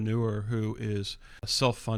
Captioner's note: uh